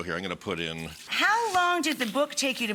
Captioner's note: liquid ripples